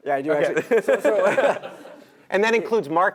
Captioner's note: laugh